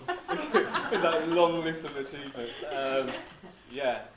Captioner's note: laughs; everyone laughs